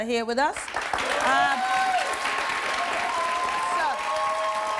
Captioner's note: audience applauds